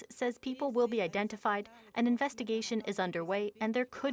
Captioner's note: speaking French